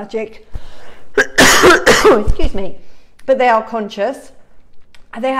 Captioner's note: coughs